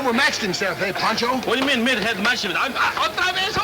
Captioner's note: speaking Spanish